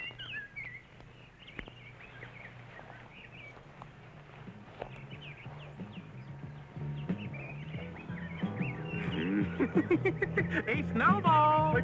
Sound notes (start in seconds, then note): 5.4 funky music; 9.2 laughing